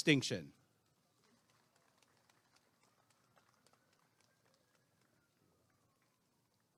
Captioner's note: applause and cheering